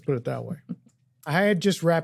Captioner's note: laughs